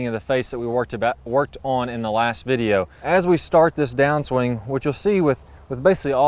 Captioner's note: none